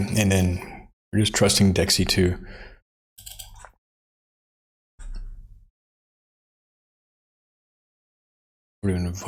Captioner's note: blank Audio